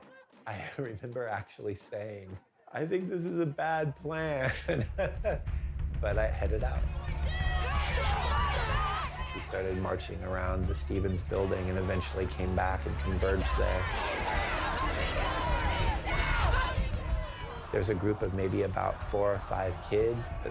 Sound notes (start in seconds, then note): 4.3 chuckles; 6.9 people clamoring; 14.4 crowd clamoring